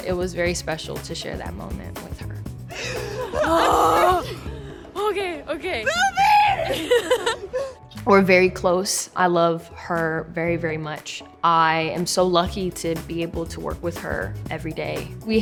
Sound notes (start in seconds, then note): 5.8 both laughing; 6.0 shouting